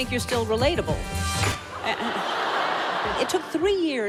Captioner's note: audience laughing